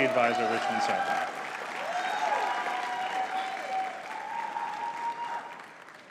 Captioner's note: audience cheering and clapping